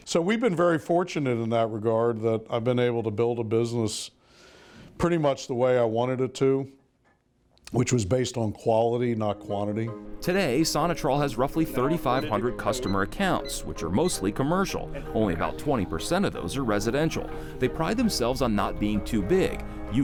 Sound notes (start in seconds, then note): 12.6 buttons beeping